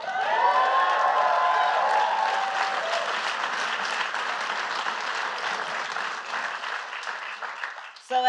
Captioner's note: applause